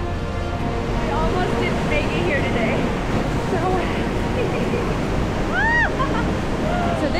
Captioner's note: delighted giggles